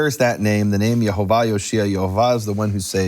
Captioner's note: speaks in foreign language